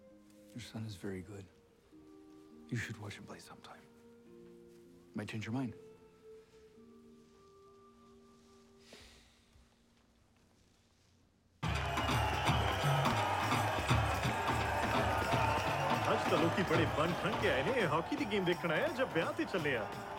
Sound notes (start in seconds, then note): 8.9 Darvesh sighing; 11.6 music, cheering